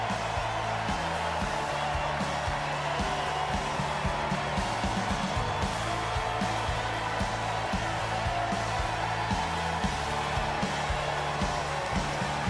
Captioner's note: cheers